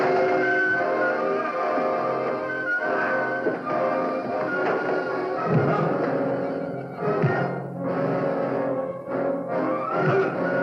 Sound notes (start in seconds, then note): 0.0 hissing; 4.2 fighting sounds